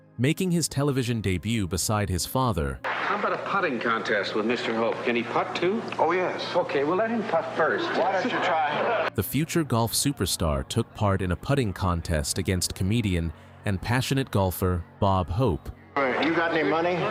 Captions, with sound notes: Making his television debut beside his father... How about a putting contest with Mr. Hope? Can he putt too? - Oh, yes. - Okay, well, let him putt first. (chatter) The future golf superstar took part in a putting contest against comedian and passionate golfer, Bob Hope. All right, you got any money?